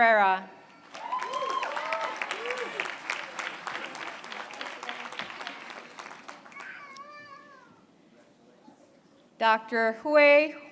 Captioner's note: applause